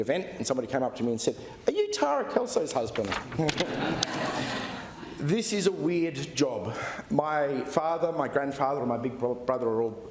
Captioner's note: laughter